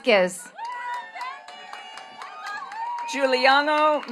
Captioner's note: attendees cheering and clapping